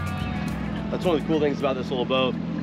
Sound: boat engine running

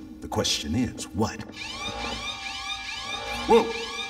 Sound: alarm blaring

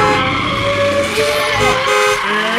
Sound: makes car engine sounds; car horn honks; tires squeal

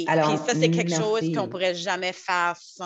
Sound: French

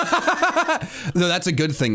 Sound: laughing

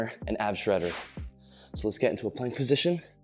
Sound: whooshing sound

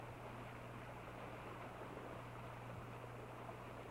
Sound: none

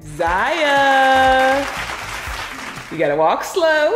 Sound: applause

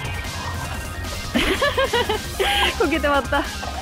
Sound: laughs

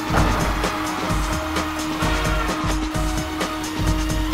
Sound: crowd cheering

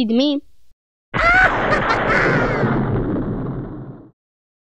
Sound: maniacal laughter; thunder crash

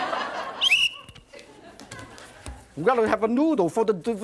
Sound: blows whistle

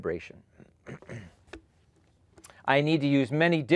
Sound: clears throat

